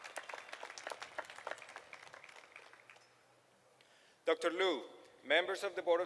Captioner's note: applause